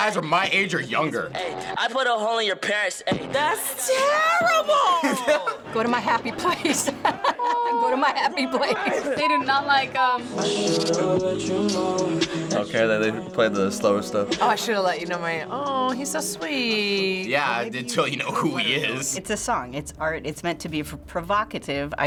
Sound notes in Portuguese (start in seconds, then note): 4.7 risos